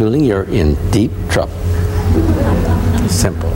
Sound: audience laughing

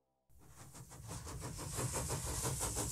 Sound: chuffing

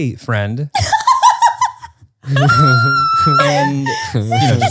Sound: laughs

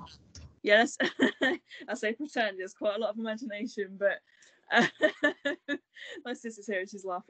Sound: laughs

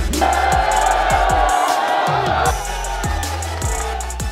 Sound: crowd cheering; laughing

